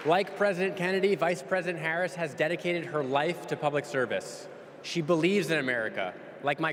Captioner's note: applause